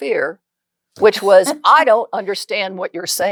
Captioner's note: laughs